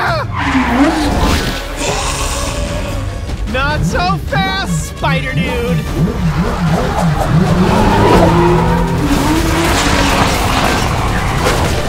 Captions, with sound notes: (yells) (hissing) Not so fast, spider dude. (engine revving)